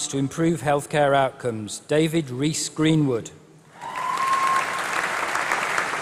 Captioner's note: applause